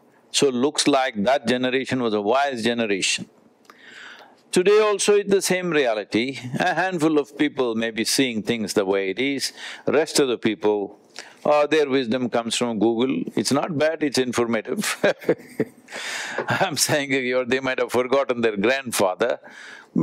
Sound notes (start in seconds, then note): 14.8 Sadhguru laughs